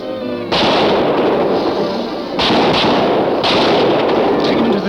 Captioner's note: guns shooting